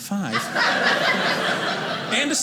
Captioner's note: audience laughing